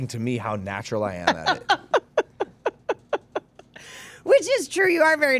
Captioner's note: laughing